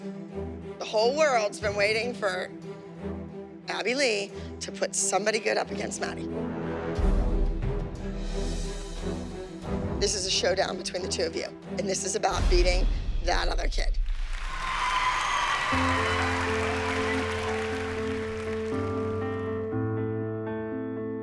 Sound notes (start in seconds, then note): 6.1 tense music; 14.0 cheering and applause